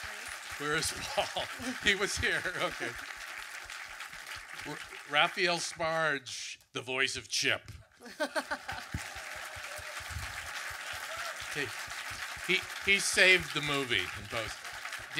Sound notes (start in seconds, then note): 2.8 audience clapping; 8.0 laughs; 8.2 audience clapping